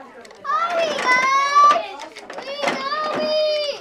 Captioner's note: yelling